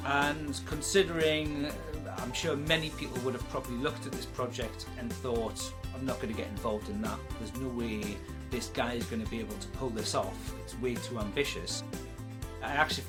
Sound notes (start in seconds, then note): none